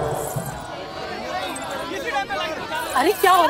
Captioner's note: Commotion begins